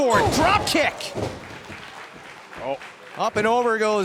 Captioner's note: crowd cheering